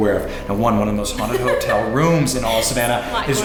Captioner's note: laughs